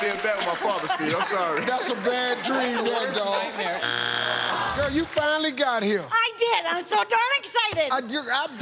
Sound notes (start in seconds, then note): 3.8 buzzer